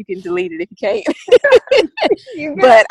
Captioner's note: both laugh